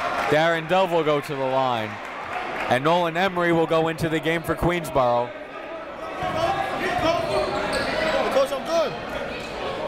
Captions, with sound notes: Darin Dove will go to the line and Nolan Emory will go into the game for Queensborough. (crowd talking)